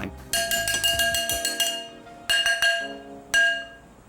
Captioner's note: dish clanging